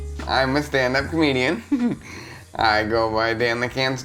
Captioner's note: giggles